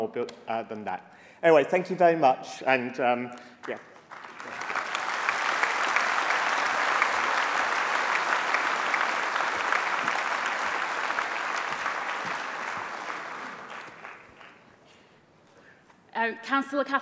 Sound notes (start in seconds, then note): 6.9 applause